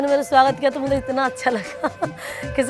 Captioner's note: laughing